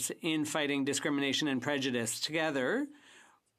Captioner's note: speaking French